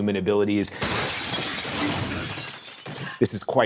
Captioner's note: shards clattering